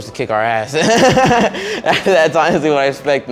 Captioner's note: laughing